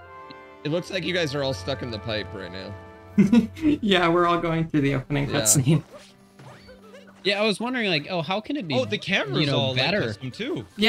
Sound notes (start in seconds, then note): 3.2 giggles; 6.5 giggles